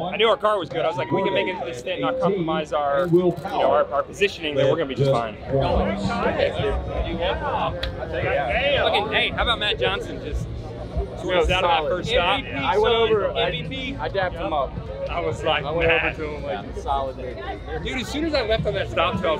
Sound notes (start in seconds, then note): 6.0 men chattering